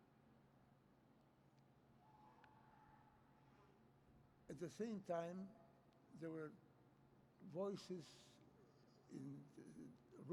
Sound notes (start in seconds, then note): none